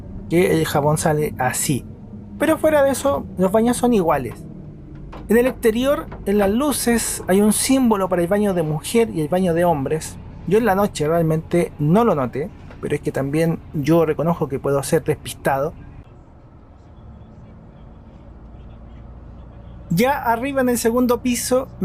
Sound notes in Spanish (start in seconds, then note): 16.5 sonido ambiente en el bus